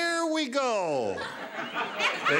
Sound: laughter

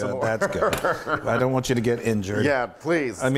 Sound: laugh

